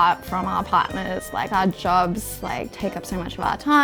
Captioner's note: none